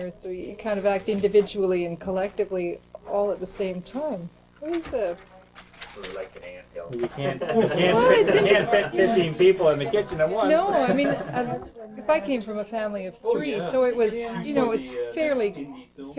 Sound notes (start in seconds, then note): 7.0 crowd laughter; 10.7 laughs